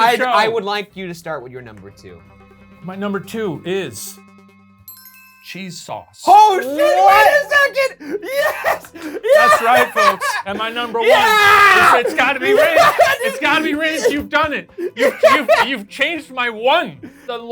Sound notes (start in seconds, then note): 3.9 suspenseful music; 4.8 list chimes; 8.7 laughs; 12.8 laughing